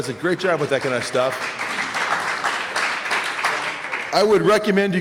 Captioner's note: applause